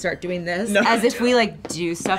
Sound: laughs

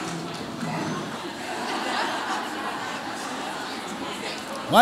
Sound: audience chattering

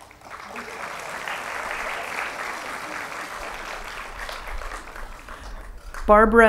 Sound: applause

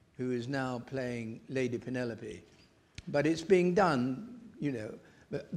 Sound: none

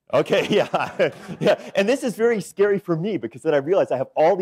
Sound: laughs

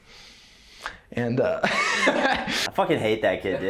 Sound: laughs

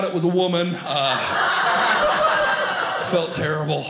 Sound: audience laughing

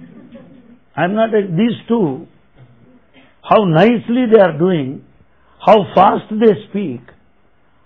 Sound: laughter

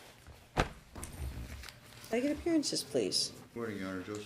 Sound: papers Shuffling

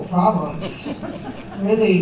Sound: laughter

